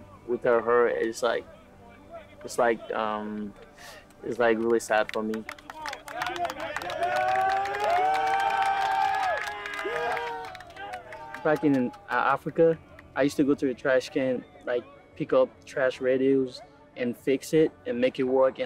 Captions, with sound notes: without her is like really sad for me. (hands clapping) (players cheering) Back in Africa, I used to go to a trash can, pick up trash radios and fix it and make it work